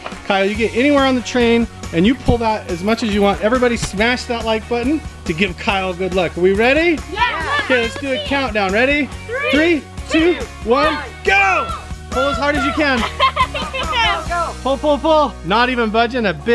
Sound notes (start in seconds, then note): 7.2 cheers and applause; 12.1 laughing